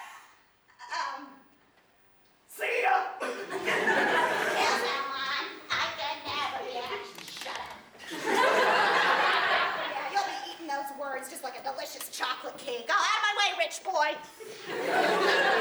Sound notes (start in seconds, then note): 4.5 mocking